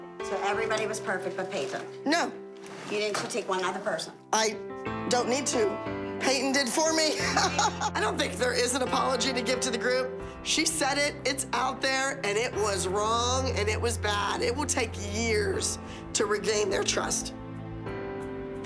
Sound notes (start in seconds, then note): 7.2 laughs